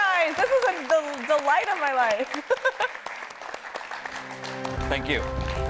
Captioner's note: laughs